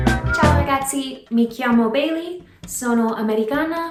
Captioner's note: speaking Italian